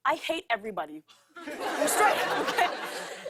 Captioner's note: laughter